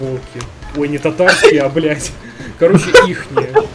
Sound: chuckle

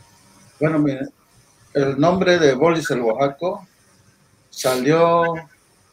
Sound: speaking in foreign language

